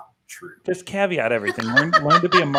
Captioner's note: laughing